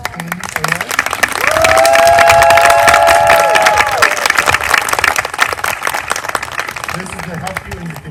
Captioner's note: applause